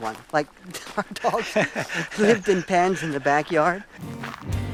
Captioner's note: laughs